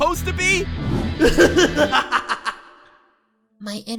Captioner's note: yang laughs